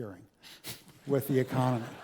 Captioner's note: laugh